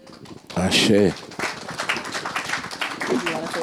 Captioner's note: audience applauding